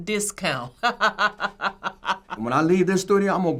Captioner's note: laughs